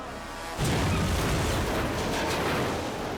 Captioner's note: car crashing